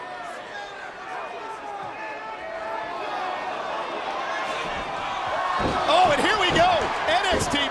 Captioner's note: crowd chatter